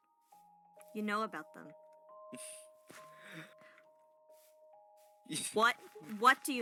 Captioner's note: giggle